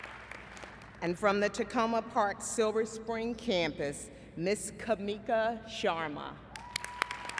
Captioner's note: applause